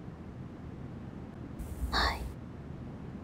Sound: whispering

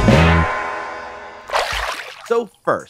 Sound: water splashing

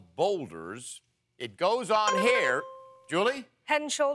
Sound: dings

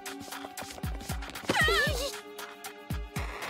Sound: yelling

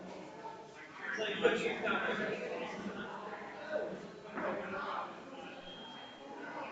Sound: people chattering distantly continues

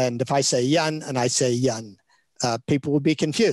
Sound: speaks in Chinese

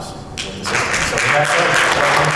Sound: audience applauds

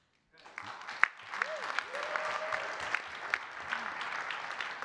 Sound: audience clapping and cheering

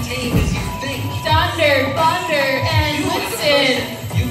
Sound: laughs

